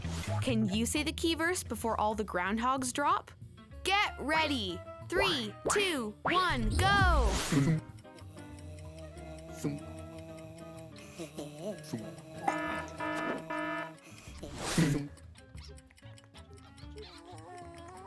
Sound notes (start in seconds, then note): 7.7 timer ticking; 12.4 buzzer; 15.1 timer ticking